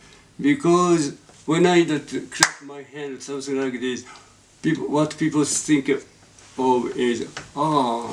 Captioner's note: claps his hands